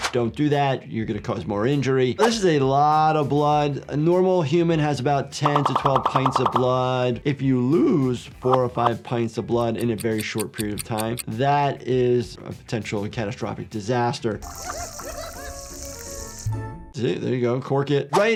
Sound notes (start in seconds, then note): 9.6 clock ticking; 14.4 blood spraying; 14.5 cat crying